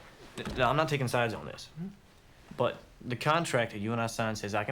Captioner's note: none